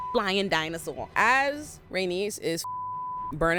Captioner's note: beep